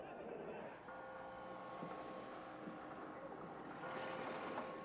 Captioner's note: clock bell chiming